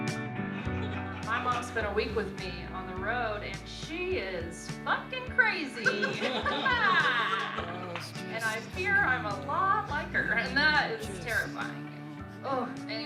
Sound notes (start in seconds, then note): 5.7 laughing